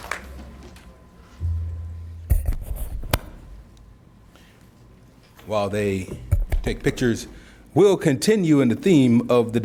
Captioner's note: applause